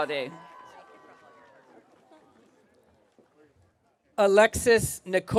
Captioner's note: audience cheering